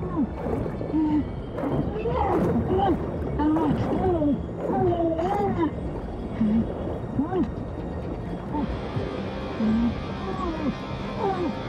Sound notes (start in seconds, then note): 0.7 muffled grunting; 9.6 muffled grunting